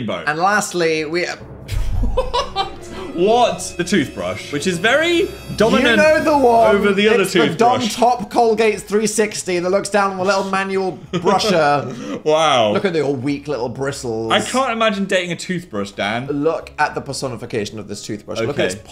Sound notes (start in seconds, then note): 1.7 dramatic music; 2.0 laughs; 11.1 laughs